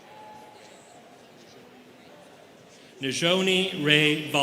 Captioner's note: students cheering; students chattering